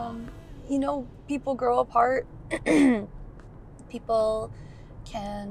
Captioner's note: clears throat